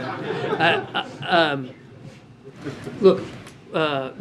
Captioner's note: laughter